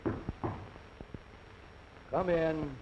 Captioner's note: knocking